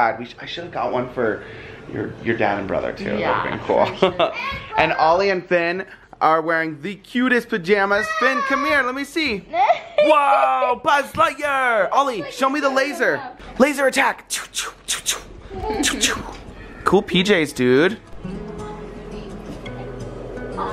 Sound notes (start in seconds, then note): 3.8 laughter; 15.8 laser sounds; 18.4 relaxing music